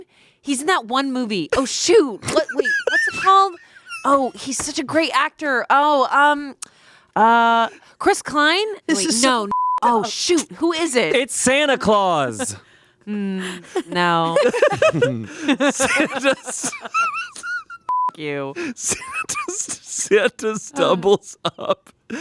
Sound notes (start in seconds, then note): 13.5 laughing; 16.9 wheezing